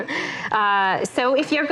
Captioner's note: laughs